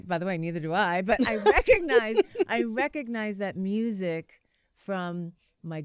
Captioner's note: laughter